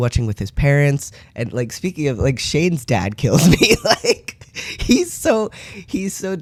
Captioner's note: laugh